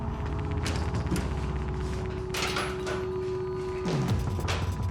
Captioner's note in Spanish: ruido al abrir